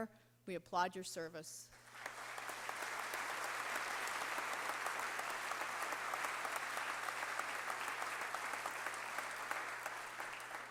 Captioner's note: applause